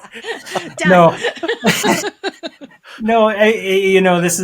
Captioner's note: all laughing